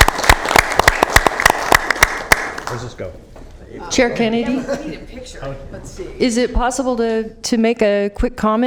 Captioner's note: applause